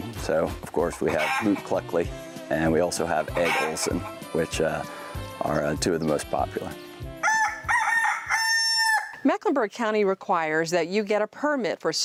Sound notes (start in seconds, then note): 7.2 rooster crows